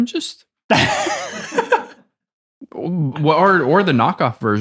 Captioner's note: innocent laughing